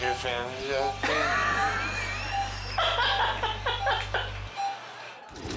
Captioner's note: laughing; logo swooshing; machinery beeping